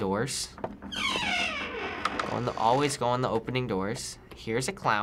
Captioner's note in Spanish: puerta cruje